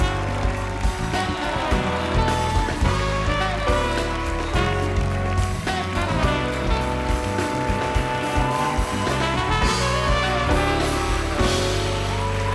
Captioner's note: applause